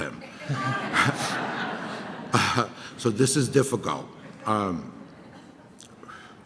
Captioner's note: audience laughter